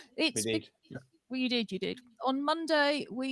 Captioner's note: laughter